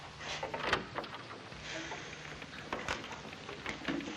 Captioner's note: door opening